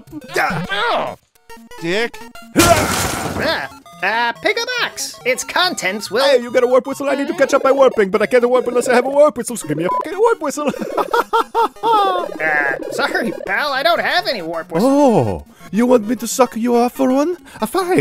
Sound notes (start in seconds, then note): 2.5 wall smashing; 9.9 beep; 10.5 laughs